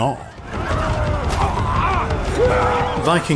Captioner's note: battle cries